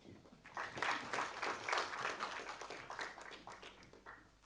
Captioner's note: audience applauding